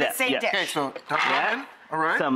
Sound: nuts clacking

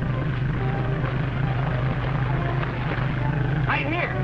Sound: splashing

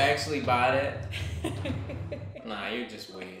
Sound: laughter

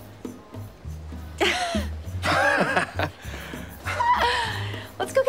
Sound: chuckles; laughs

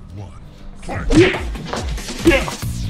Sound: smack

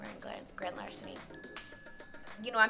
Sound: ding

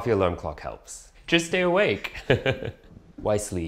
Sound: laughs

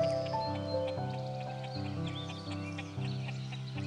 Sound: chickens clucking

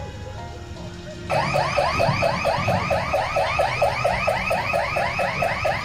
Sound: house alarm

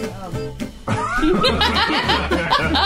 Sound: laughing

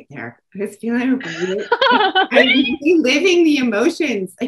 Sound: laughter

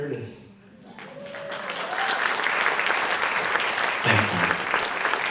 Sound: audience clapping

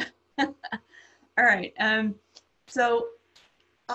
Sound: laughs

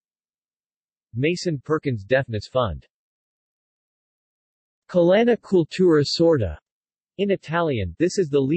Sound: in Italian

